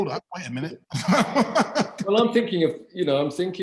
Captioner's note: laughs